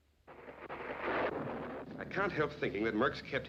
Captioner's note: thunder